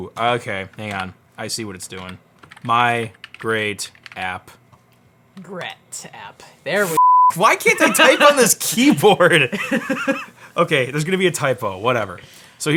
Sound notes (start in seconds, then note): 7.0 beep; 8.8 laughs